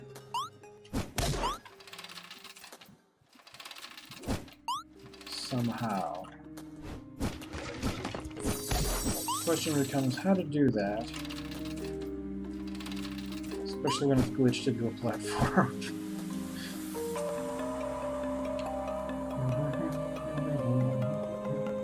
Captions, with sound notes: ...somehow. Question becomes, how to do that... ...especially when it's glitched into a platform. [laughs] [humming along]